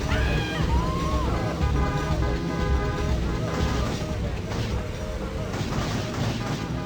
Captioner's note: people yelling; car horns blaring